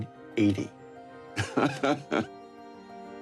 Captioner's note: laughs